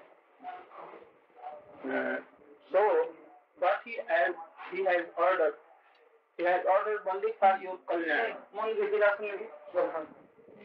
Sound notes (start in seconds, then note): 8.7 Hindi